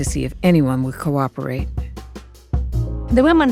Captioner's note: soundbite of archived recording